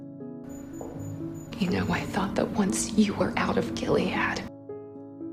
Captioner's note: voiceover